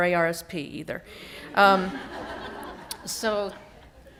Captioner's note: laughter